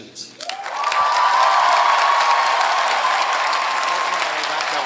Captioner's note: cheering